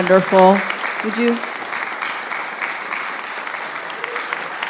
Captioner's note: audience applauding